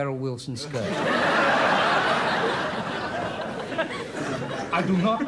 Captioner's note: audience laughs